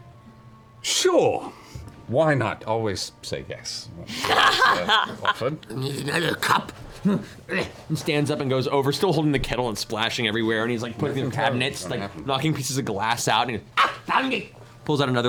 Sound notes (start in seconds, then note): 3.9 laughs; 7.1 grunts